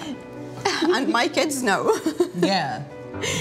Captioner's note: chuckles